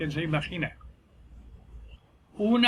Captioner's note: silence